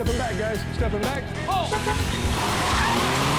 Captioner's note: tires squealing; engine revving